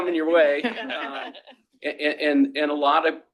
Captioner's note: laughter